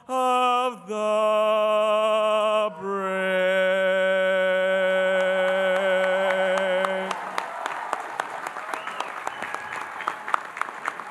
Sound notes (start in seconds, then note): 5.4 audience cheering and applauding